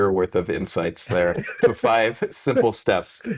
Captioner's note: laughs